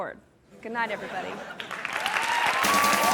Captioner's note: audience laughing; audience cheering ang clapping